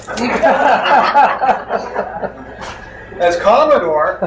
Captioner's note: crowd laughs